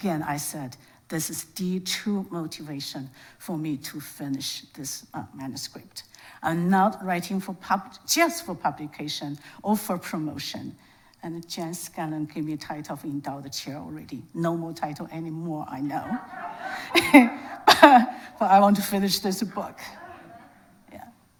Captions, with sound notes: Again, I said, this is the true motivation for me to finish this manuscript. I'm not writing just for publication or for promotion, and Jen Scanlon give me title of endowed chair already. No more title anymore, I know. (audience laughs) (laughs) But I want to finish this book, yeah.